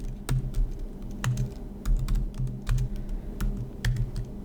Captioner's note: typing